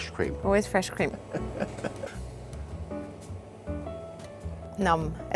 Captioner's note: laughs